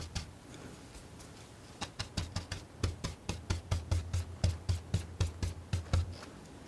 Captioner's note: scratching